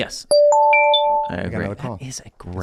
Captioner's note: internet phone ringing